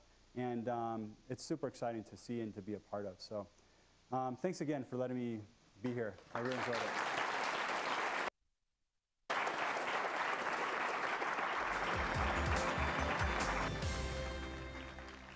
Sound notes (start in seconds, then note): 7.4 applause